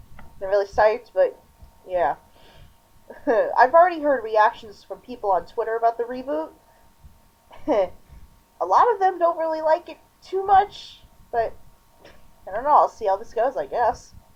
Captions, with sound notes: Not really psyched, but...yeah. (chuckle) I've already heard reactions from people on Twitter about the reboot. (chuckle electric boogaloo) A lot of them don't really like it too much, but... I don't know, I'll see how this goes, I guess.